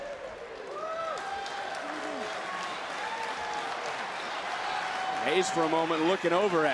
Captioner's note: crowd cheers